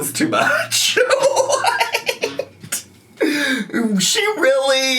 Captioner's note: laughs